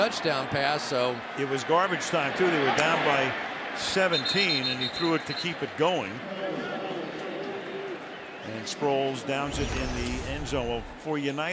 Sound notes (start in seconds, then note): 7.1 announcer on pa